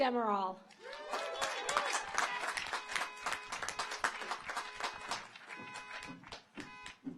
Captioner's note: audience applauds; car horns honking